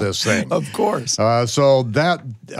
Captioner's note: laughing